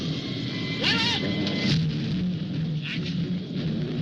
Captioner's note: shouting